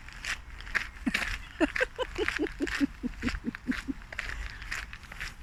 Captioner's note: laughing